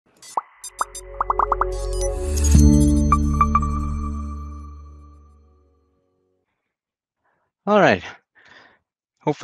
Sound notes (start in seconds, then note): 0.2 graphics popping; 2.6 dramatic music